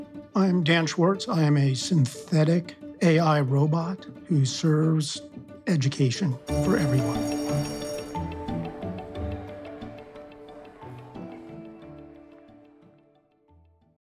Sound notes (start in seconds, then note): 6.4 bell ringing